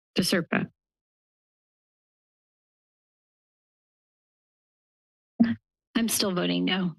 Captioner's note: silence